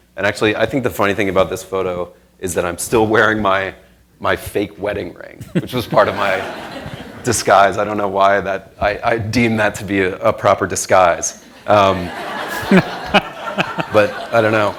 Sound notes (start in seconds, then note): 5.8 crowd laughing; 11.9 crowd laughing